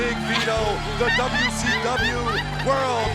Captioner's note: Daffney laughing